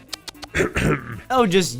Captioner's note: ahem